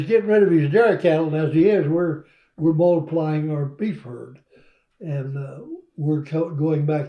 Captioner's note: laughter